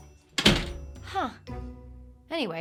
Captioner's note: door banging